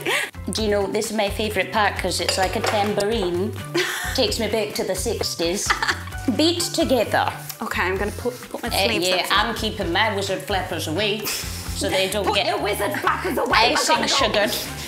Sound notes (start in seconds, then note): 5.5 laughs